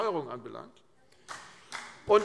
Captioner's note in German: Beifall BÜNDNIS 90/DIE GRÜNEN